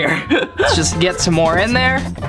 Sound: laughing

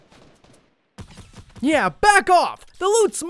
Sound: gunshots

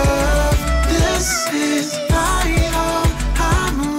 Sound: deep female voice

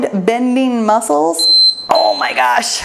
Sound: timer beeps

